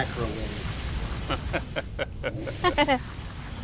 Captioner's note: laughs